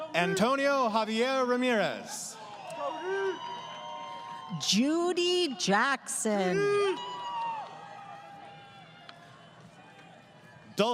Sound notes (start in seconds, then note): 2.3 crowd cheering; 7.8 crowd Cheering